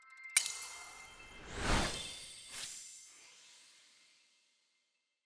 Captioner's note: electronic whoosh